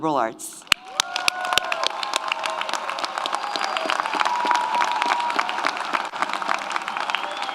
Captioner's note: audience applauds; audience cheers